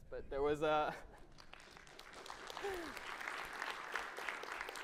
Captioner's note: audience clapping